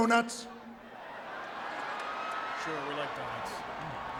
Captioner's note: audience laughing